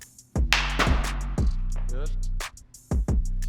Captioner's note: ball hits